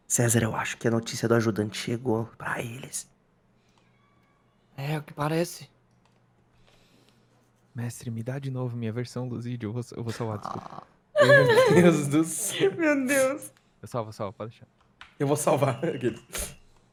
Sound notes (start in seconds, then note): 11.1 laughing; 15.4 laughs